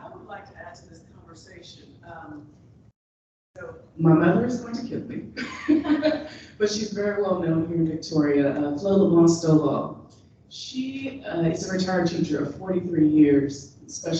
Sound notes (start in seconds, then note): 5.4 chuckles